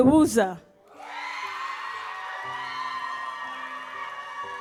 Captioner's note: audience cheers